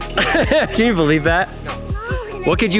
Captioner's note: father laughing